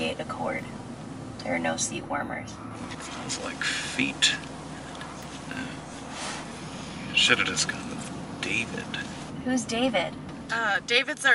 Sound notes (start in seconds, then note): 6.0 whispers